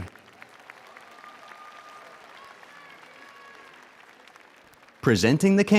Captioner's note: audience cheers and applauds